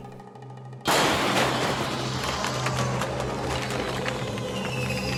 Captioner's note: explosion booming